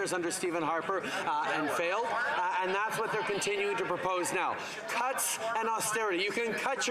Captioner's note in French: voix de l'interprète